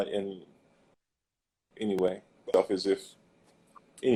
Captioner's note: glitch